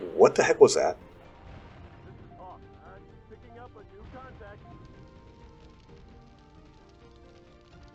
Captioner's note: boom